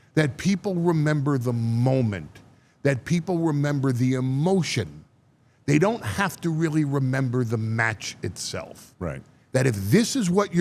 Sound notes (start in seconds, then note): none